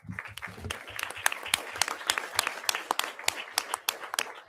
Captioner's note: audience applauding